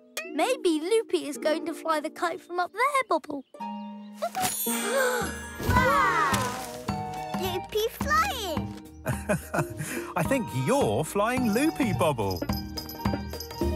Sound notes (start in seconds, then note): 5.5 gasps; 9.0 laughs